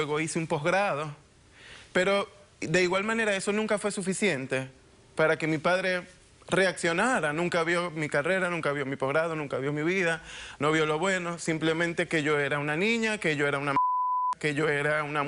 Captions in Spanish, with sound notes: LUEGO ESTUDIO EN LA UNIVERSIDAD, LUEGO HICE UN POSGRADO. PERO,DE IGUAL MANERA... ESO NUNCA FUE SUFICIENTE PARA QUE MI PADRE REACCIONARA. NUNCA VIO MI CARRERA, NUNCA VIO MI POSGRADO, NUNCA VIO MI VIDA. NO VIO LO BUENO; SIMPLEMENTE "QUE YO ERA UNA NIÑA, QUE YO ERA UNA [Bip]